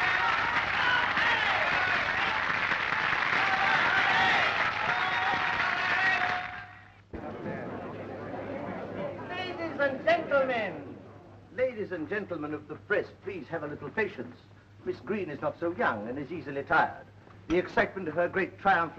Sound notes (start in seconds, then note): 7.1 crowd murmuring